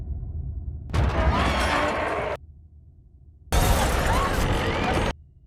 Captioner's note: shattering sounds